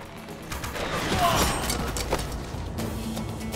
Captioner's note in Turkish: Ok fırlatma sesi